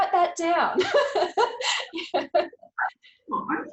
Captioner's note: laughing